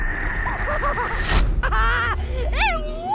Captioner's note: laughing